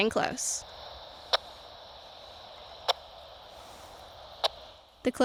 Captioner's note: transmitter beeping